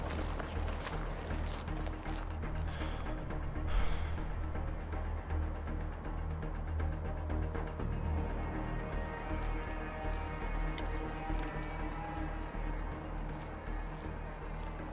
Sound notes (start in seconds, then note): 2.5 sighs; 7.0 tense Music